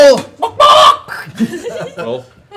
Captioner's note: chicken clucking